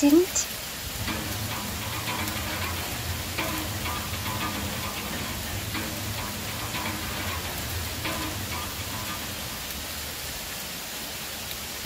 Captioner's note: rain Pouring; instrument Playing; rain Pouring